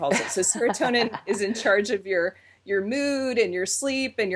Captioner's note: laughs